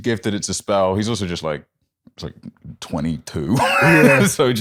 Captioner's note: laughs